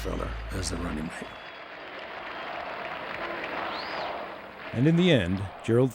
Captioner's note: applause; voiceover